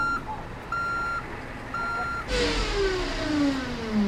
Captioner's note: reverse signal beeping